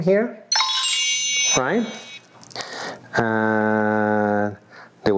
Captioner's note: cellphone beeping